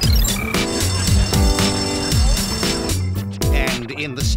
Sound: school bell rings

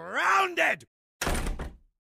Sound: door slams

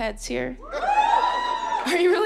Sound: audience cheering

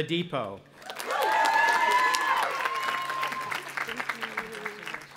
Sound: audience applauding and cheering

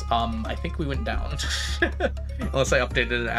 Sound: laughs

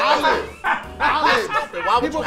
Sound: laughing

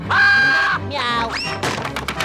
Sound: screaming; meowing

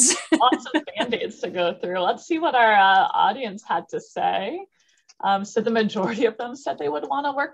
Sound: laughter

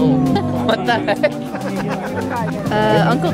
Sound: chuckles

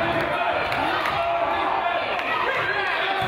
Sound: claps

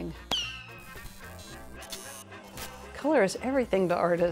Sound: electricity crackling

